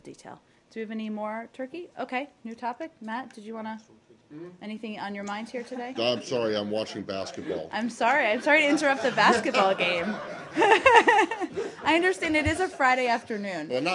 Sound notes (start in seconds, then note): 11.0 laughter